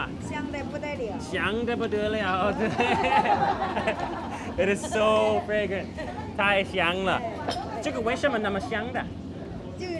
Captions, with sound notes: (all laugh) It is so fragrant.